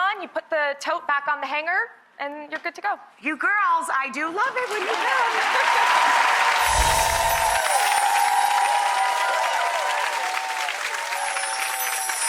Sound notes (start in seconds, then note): 4.6 audience applause; 6.0 laughing